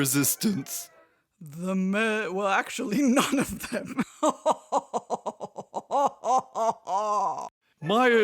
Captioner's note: evil laughter